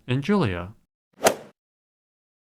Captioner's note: swoosh